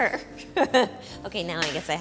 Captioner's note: laughs